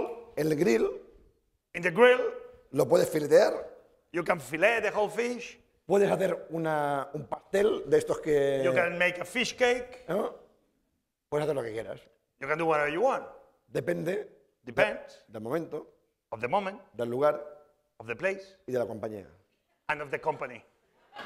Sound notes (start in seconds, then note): 3.2 speaking spanish; 6.7 speaking spanish; 10.9 speaking spanish; 14.1 spanish; 15.4 speaking spanish; 17.4 speaking spanish; 21.0 laughter